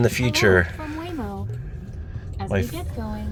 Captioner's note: Waymo Car Speaking